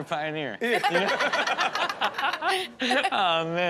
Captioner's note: everyone laughing